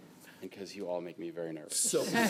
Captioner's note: laughter